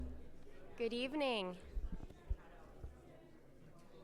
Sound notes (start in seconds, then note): 0.0 audience chattering faintly